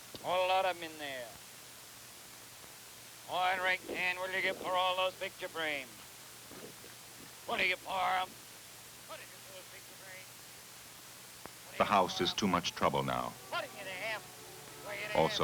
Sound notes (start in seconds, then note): 7.4 auctioneer chant fades into the background